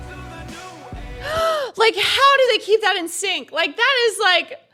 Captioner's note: gasps